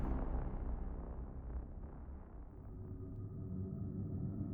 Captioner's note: dramatic boom